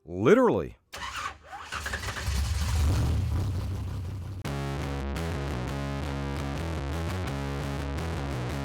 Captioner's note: race Car Starting Up; fast Paced Music